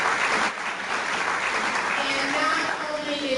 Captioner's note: clapping